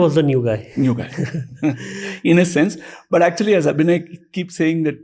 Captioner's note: chuckles